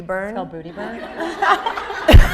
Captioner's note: audience laughing